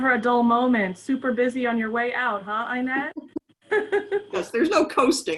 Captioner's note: laughs